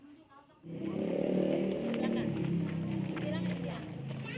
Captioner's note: sound of motorbikes on the side of the road